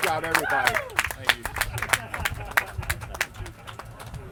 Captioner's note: clapping